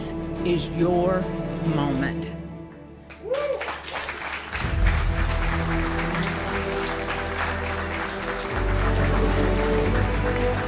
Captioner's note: applause